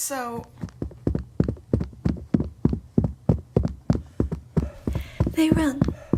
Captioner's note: footsteps, panting. Waves fade in